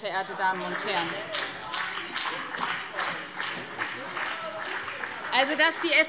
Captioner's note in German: Beifall BÜNDNIS 90/DIE GRÜNEN und CDU - Zurufe SPD